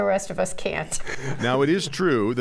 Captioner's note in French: laughter